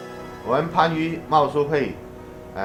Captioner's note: speaking chinese